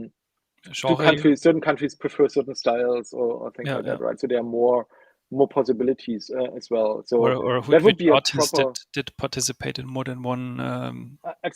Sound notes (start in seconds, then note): 7.2 chattering